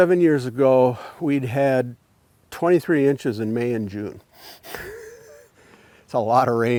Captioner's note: chuckles